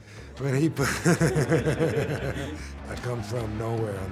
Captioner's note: group laughing